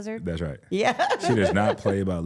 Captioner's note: laughs